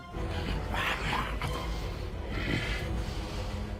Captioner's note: growling